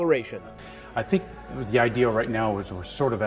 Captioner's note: voiceover